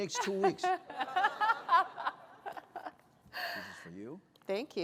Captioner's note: laughter